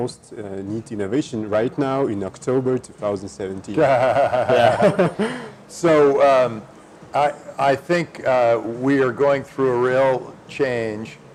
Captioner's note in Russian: Смеется